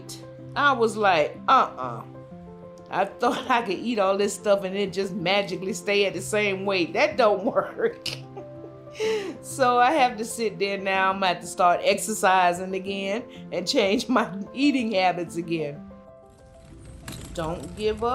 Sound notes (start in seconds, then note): 8.2 laugh